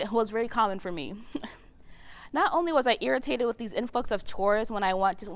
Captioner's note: laugh